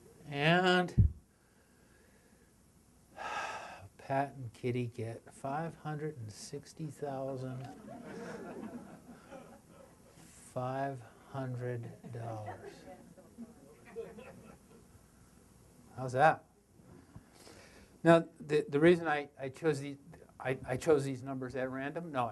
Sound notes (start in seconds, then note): 3.1 sighs; 7.6 audience laughter